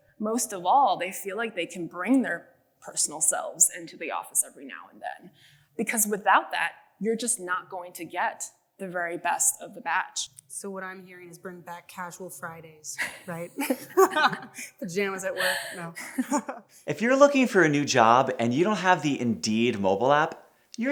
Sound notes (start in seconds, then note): 13.0 laughter